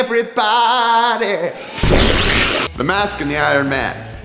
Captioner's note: explosion sounds